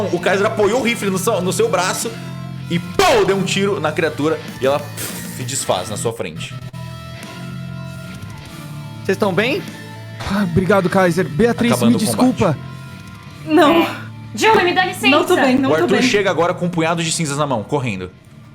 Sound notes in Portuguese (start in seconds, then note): 2.8 pow